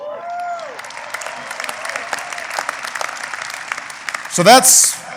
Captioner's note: applause